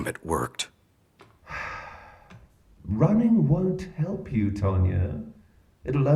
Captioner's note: sighing